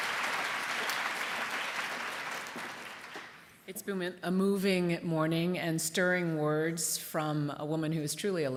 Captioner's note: applause